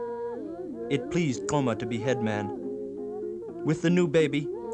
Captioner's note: non-english speech